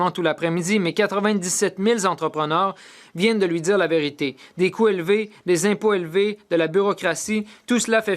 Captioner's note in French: voix de l'interprète